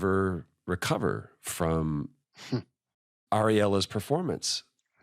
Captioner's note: chuckles